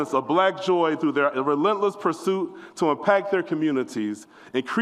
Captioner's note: none